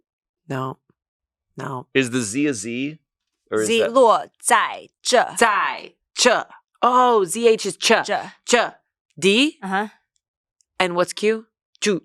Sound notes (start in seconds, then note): 3.6 speaks foreign language